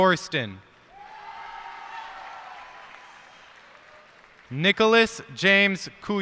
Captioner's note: cheers and applause